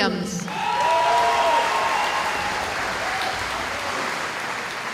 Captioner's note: cheering